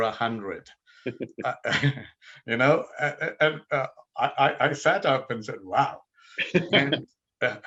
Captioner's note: laughing